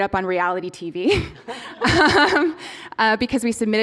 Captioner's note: laughter